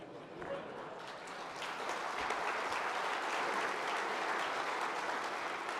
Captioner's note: audience laughs and applauds